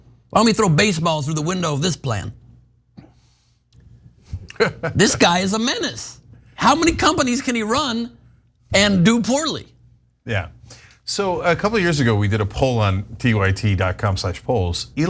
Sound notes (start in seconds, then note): 4.4 laugh